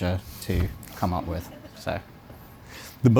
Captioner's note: audience Laughing